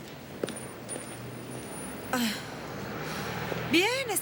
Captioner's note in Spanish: Jodie suspira